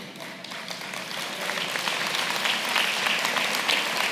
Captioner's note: applause